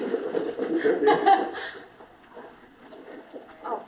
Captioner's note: laughter